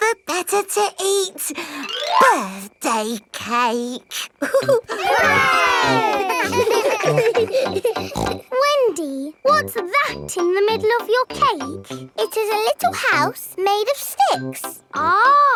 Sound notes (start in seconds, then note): 4.4 laughing; 4.4 chuckles; 6.4 snorts